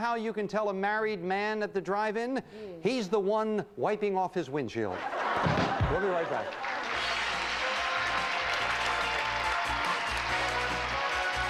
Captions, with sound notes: Do you know how you can tell a married man at the drive-in? He's the one wiping off his windshield. [audience laughing] We'll be right back. [audience applauding]